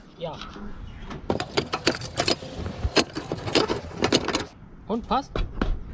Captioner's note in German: klappern